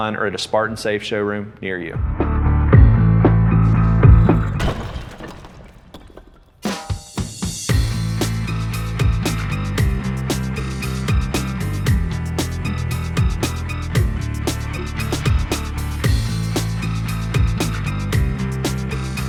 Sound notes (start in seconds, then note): 2.0 upbeat rock music; 4.0 logo thudding